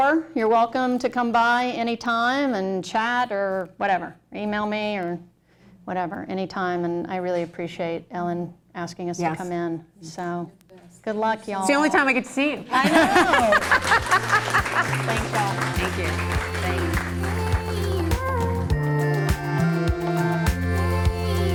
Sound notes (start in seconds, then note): 12.7 laughter; 16.5 closing music